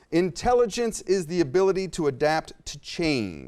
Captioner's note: none